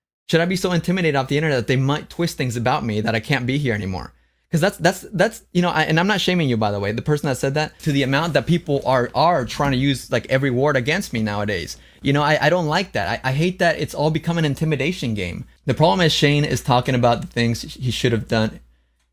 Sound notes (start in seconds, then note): none